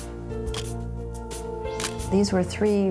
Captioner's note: camera shutter click